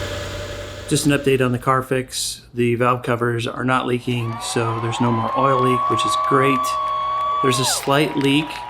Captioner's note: applause